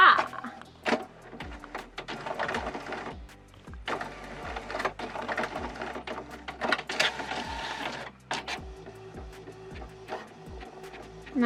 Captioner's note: printer Noises